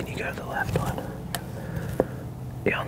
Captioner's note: whispering